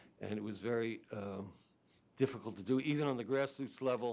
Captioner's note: none